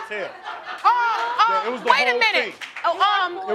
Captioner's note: crowd laughing